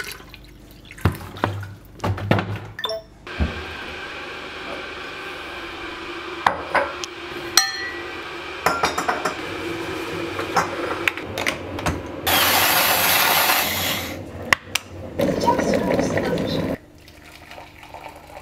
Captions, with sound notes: [Kettle] Your hot water is ready